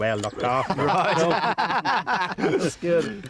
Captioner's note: laugh